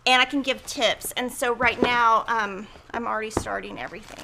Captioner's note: thuds on desk